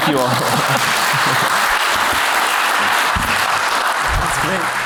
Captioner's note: applause